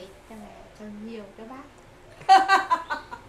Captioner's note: laugh